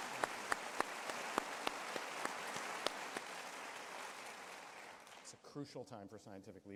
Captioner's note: applause